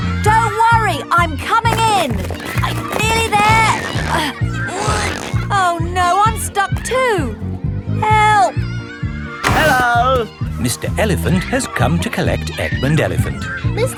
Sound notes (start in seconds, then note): 4.2 grunting